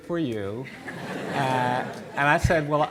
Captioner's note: audience laughing